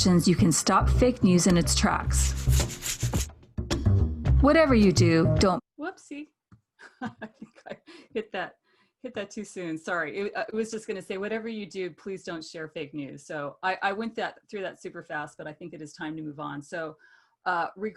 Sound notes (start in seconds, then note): 6.8 laughs